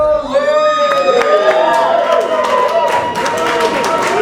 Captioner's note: audience cheering